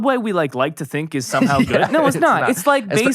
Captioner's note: laughs